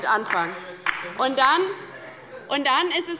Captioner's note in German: Beifall bei der LINKEN